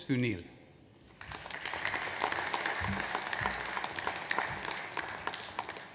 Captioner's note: audience applauds